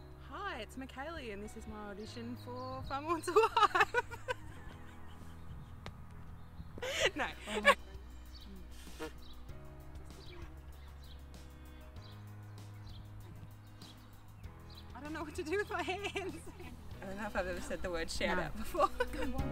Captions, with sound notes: Hi, it's Mikkali and this is my audition for Farmer Wants a Wife. (laughing) No. (relaxing music) I don't know what to do with my hands. (laughing) I don't know if I've ever said the word shout out before.